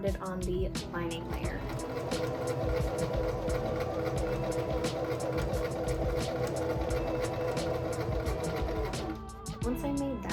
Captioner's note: sewing machine being loud